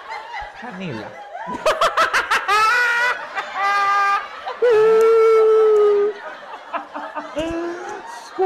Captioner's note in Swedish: skrattar